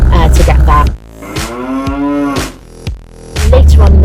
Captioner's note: moo